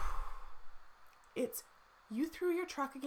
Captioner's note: exhales loudly